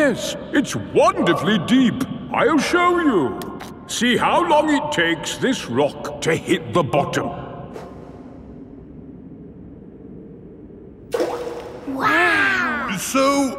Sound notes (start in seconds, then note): 11.1 rock plops